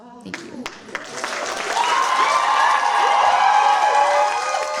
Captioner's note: cheers, applause